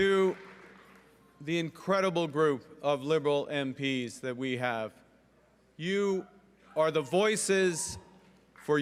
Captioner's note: cheering and Applause